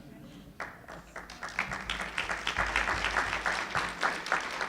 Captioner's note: applauding